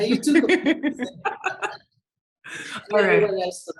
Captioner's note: everyone laughing